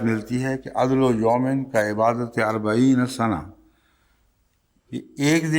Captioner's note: Arabic